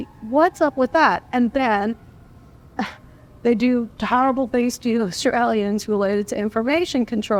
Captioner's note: laugh